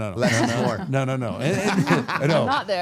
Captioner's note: all laughing